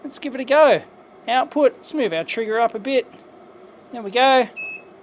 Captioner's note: beep